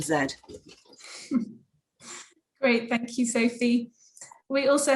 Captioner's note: chuckles